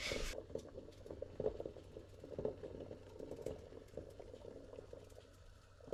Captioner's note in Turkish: su kaynama sesi